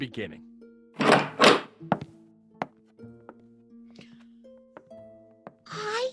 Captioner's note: door Opens and Footsteps Walk Away